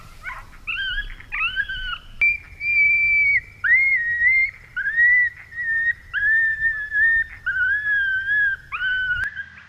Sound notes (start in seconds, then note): 3.3 coyote call shrieking